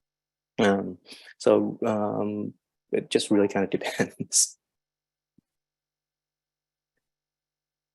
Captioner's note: chuckles